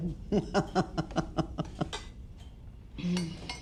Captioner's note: Martha laughing